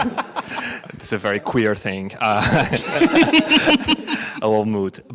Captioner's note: all laugh; chuckles